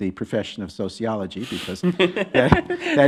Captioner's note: chuckling